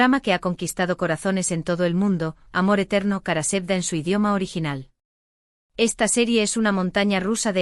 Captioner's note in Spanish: Kara Sevda en su idioma original